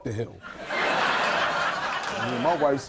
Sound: audience laughing

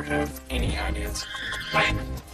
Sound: horse neighs

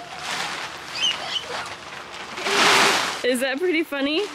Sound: giggling

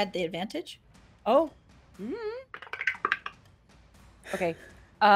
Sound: dice clatter

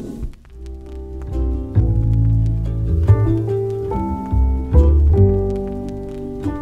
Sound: graphics whooshing; static crackling; gentle music

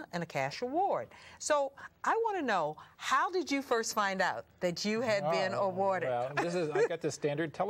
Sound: laughter

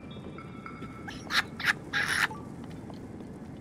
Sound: successful Laughter

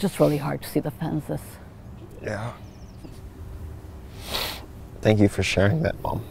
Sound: sniffs

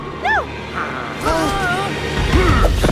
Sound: both shuddering

